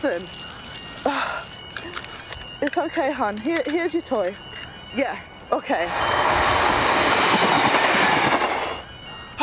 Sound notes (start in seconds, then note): 1.0 sighs; 4.8 speaking on phone; 5.9 loud rumble; 8.5 siren sounding